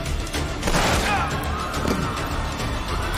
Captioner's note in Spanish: Disparos; Gritos y algarabía